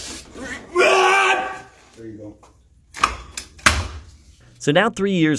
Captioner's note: shouting